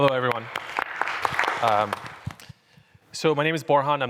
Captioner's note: applause